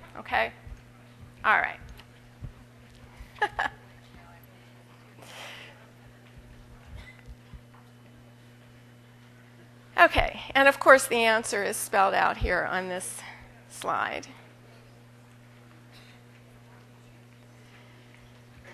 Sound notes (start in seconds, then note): 3.3 laughter